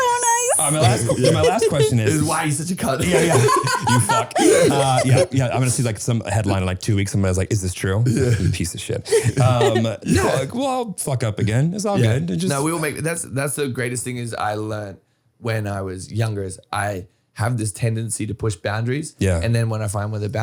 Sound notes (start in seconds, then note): 2.8 laughing